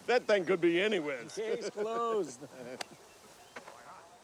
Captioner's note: chuckling